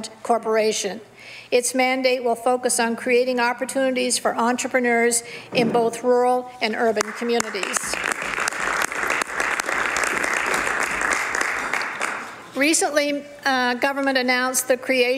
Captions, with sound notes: RESPOND EXPAND TO BECOME THE PROVINCE'S STRATEGIC PROPERTY DEVELOPMENT CORPORATION. ITS MANDATE WILL FOCUS ON CREATING OPPORTUNITIES FOR ENTREPRENEURS IN BOTH RURAL AND URBAN COMMUNITIES. [ Some Applause ]